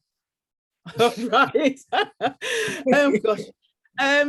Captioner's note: woman chuckling